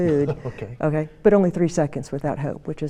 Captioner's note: laughs